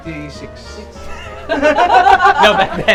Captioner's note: laughs